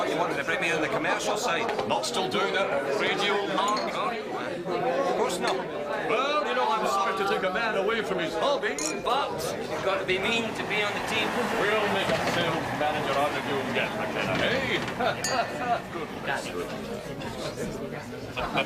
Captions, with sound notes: Thought you wanted to bring me in on the commercial side? Not still doing that radio lark, are you? Of course not. Well, you know, I'm sorry to take a man away from his hobby, but... You gotta be mean to be on the team. We'll make a sales manager out of you yet, McKenna, eh? (LAUGHING)